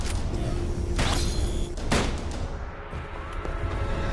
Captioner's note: gun blasts; dramatic music